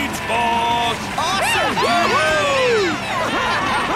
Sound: all cheering

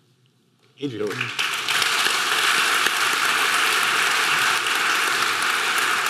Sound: audience clapping

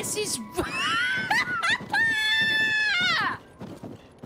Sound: laughter Followed By Screaming

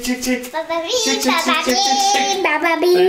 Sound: vocalizing

